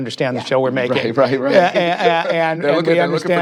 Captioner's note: laughs